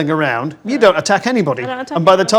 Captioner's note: overlapping chattering